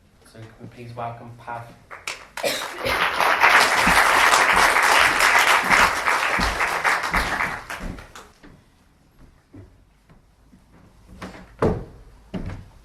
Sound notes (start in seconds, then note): 1.8 applause